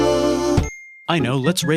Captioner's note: ding